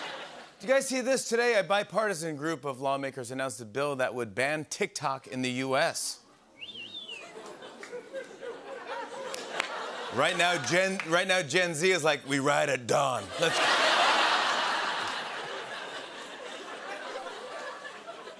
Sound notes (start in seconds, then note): 0.0 laughter; 6.5 person whistles; 8.8 laughter; 13.2 laughter